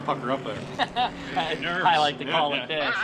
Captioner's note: laughing